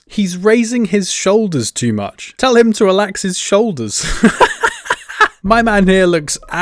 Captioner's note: laughing